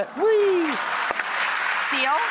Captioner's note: audience clapping